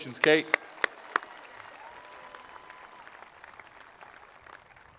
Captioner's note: attendees applauding